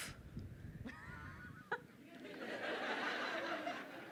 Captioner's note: crowd laughing